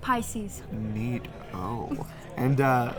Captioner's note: suggestively